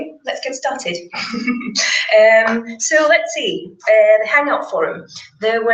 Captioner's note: laugh